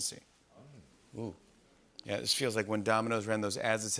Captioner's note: murmuring